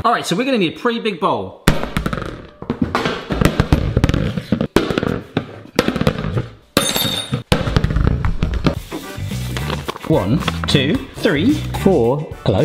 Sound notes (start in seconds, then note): 2.6 loud banging